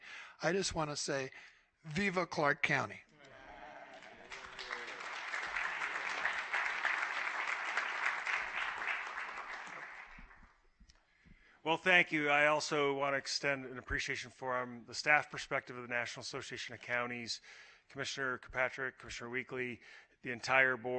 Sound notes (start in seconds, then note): 8.5 applause